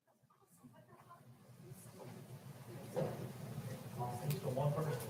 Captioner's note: people chattering